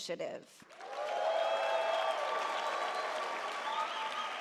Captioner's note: audience cheers